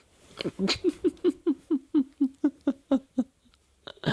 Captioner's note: sadistic laughter